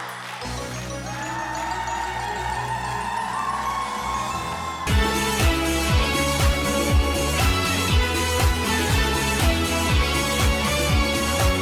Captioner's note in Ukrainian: оплески